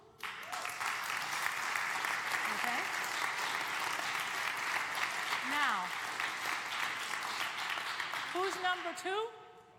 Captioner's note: applause